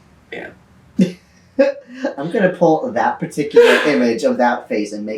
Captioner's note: laughs